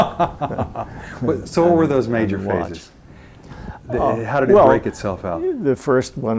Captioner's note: laughs